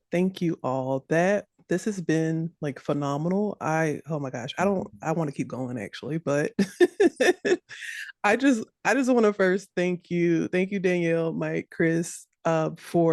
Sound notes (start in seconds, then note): 6.6 laughs